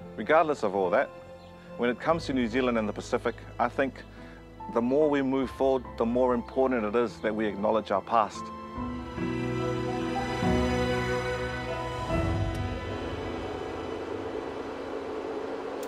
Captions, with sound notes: Regardless of all that, when it comes to New Zealand and the Pacific, I think the more we move forward, the more important it is that we acknowledge our past. (PROJECTOR CLICKS, WHIRRS)